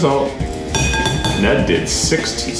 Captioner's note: dinging